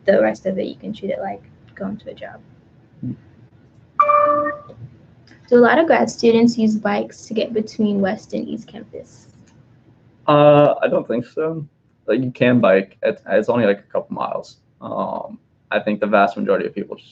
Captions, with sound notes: the rest of it you can treat it like going to the job. (computer dings) Do a lot of grad students use bikes to get between West and East Campus? - I don't think so but you can bike, it's only like a couple miles, I think the vast majority of people